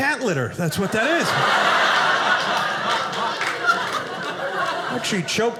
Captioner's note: audience laughing